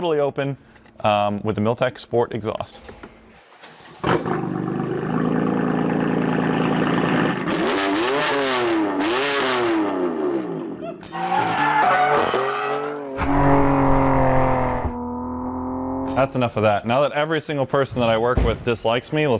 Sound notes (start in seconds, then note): 3.3 engine cranks; 7.8 engine revving